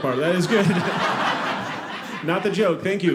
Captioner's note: audience laughing